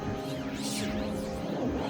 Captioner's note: none